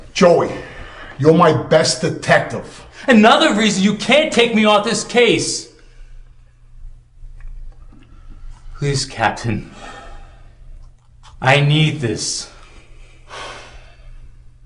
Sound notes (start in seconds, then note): none